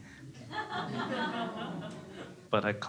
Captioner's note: crowd laughing